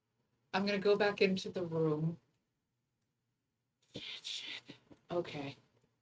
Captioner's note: whispers